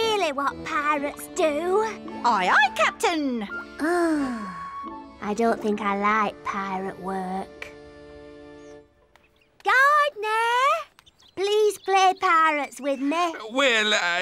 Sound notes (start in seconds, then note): none